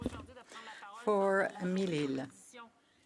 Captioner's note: speaking French